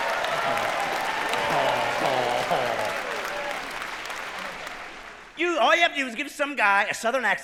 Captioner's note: cheering